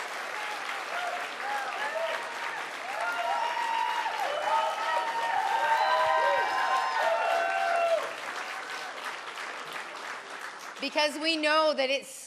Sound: cheers and Applause

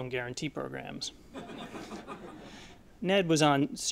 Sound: laughter

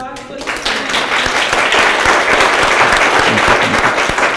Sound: audience applauds

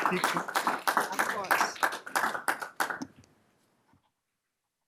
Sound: applause

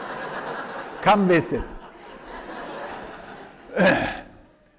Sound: laughter

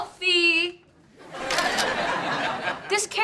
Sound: crowd laughing

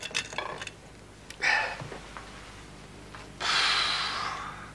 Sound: sighs

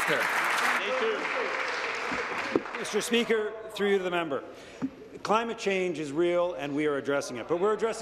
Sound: applause

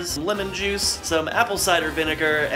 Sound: none

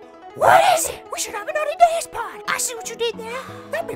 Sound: sigh

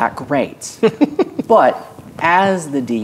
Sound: laughing

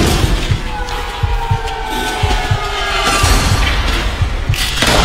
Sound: suspenseful music; heartbeat pounding; gun shot firing

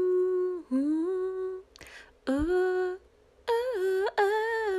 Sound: more humming

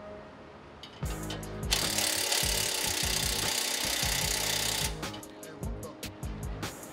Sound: bright upbeat music; driller grinding; bright upbeat music

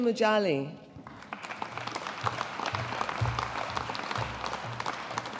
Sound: audience applauding

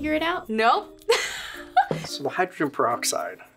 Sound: laughs

